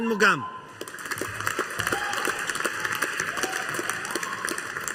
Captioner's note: audience applauding